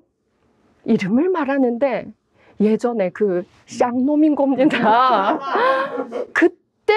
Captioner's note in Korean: 웃음